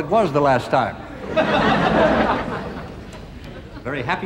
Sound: audience laughing

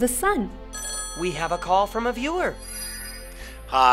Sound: ring

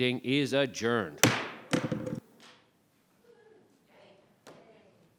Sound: knocks gavel on the table

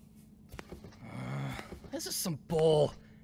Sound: TAISUKE groans

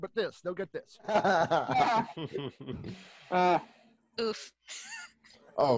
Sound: groans

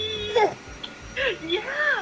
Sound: gurgles

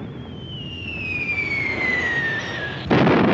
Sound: bomb whistles; explosion

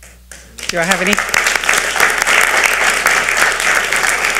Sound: audience applauds

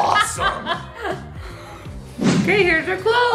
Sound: laughing

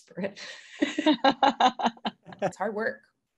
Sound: laughing

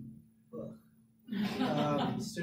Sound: laughter

